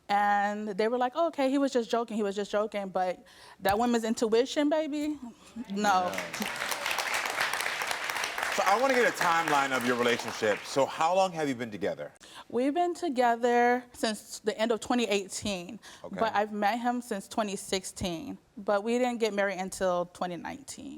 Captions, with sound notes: And they were like, oh, okay, he was just joking. He was just joking. But that women's intuition baby. No. (audience claps) - So I wanna get a timeline of your relationship. So how long have you been together? - We've been together since the end of 2018. - Okay. - But I've met him since 2016, but we didn't get married until 2019.